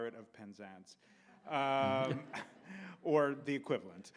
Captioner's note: audience laughs